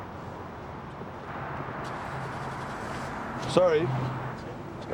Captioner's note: engine turns over